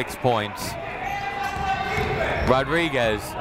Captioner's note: people shouting in the crowd